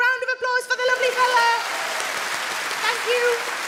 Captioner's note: audience claps